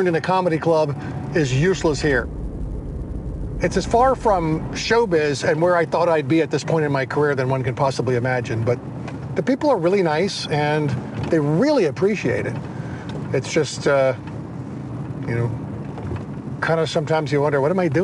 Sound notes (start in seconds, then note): none